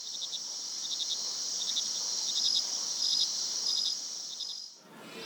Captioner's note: crickets chirping